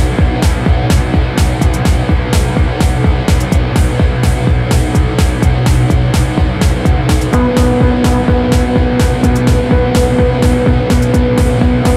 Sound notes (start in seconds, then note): none